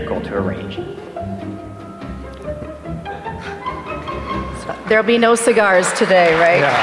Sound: applause

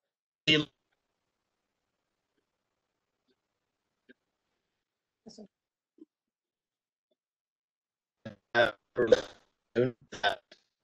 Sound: signal breaks

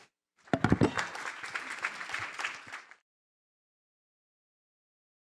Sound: applause

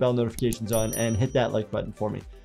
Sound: bell rings

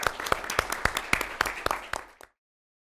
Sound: applause

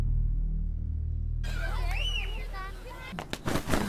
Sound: kids playing

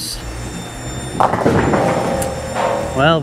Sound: bowling ball thuds; pins clattering

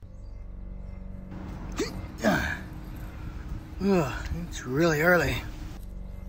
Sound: grunts and sighs

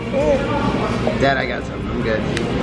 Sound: grunts

